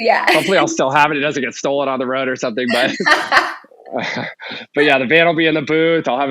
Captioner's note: laughing